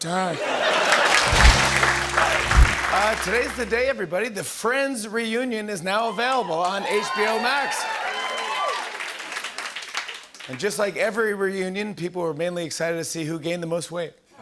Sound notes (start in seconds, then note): 0.3 laughter and applause; 7.9 cheering and applause